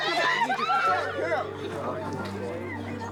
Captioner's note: screams